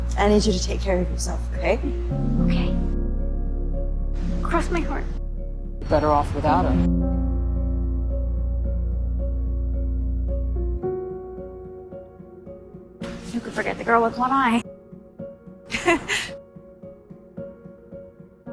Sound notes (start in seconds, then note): 6.1 voiceover; 15.7 June laughs